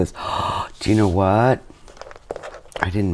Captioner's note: gasps